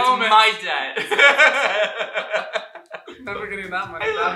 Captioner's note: laughter